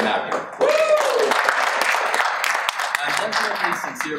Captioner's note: audience cheers and applauds